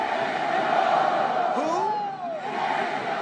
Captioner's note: crowd